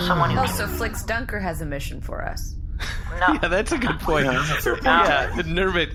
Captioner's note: laughing